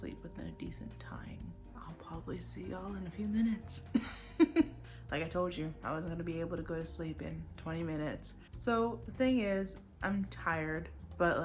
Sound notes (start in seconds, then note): 3.9 chuckles